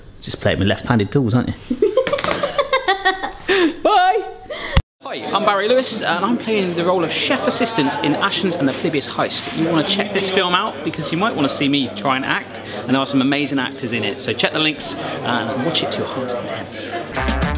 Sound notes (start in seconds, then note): 2.4 laughing; 17.0 upbeat music